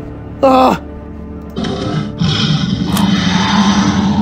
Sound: tyrannosaurus growling

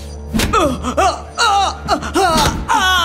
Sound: screaming

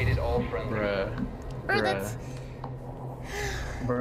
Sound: sighs

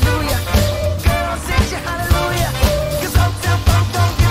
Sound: whoo

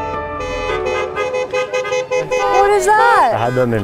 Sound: cars honking

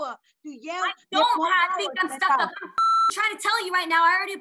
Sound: beep

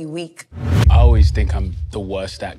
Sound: wind whooshes

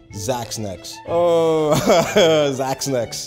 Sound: laughing

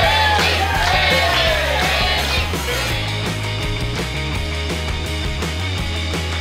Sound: patrons cheering

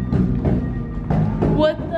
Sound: knocking

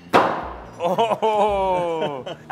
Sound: chopping

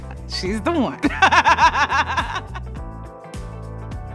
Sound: nana chuckles

